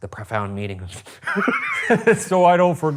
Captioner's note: laughing